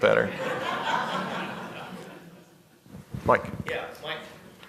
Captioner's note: laughter